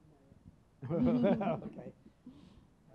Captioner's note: chuckles